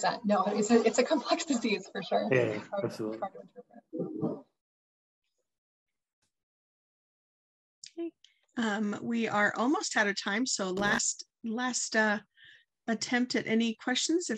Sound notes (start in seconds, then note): 3.9 chattering